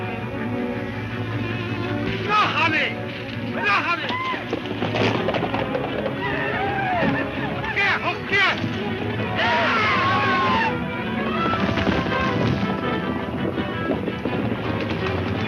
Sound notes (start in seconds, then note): 3.9 speaks in foreign language; 11.9 upbeat music